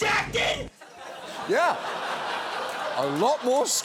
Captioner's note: audience laughs